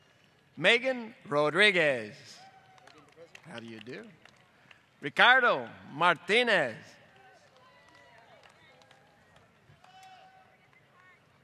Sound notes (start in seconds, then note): 2.1 applause